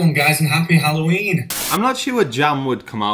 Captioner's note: static